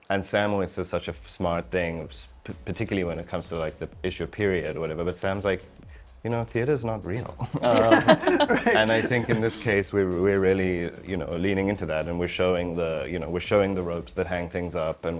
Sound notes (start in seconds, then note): 7.1 group laughing